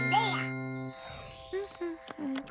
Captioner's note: humming